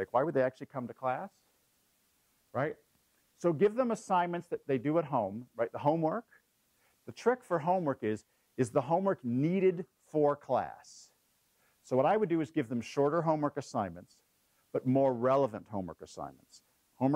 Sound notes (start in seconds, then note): none